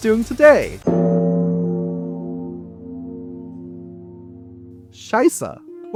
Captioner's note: grave bong